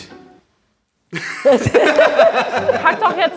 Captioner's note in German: Gelächter